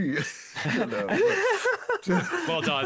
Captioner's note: laughing